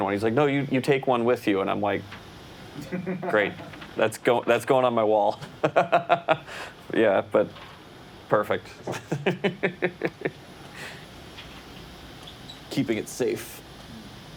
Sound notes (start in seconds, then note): 5.9 laughs; 8.8 laughs